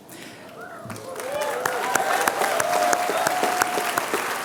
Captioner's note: applause